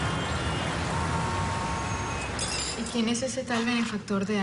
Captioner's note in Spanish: Ruidos del tráfico